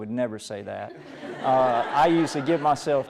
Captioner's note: laughter